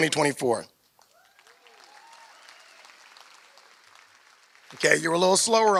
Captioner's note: applause